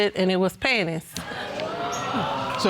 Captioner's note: audience exclaims